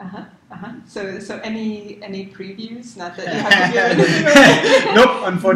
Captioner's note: laugh